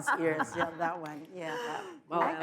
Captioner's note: audience laughs